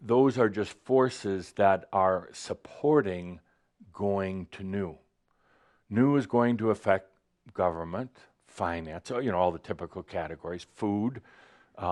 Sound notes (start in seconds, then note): none